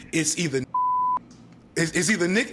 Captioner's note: beep